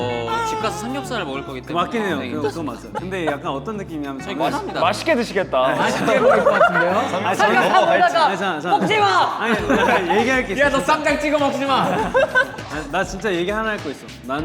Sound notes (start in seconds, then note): 5.9 obvious sarcasm